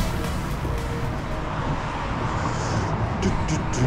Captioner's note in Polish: odgłosy samochodu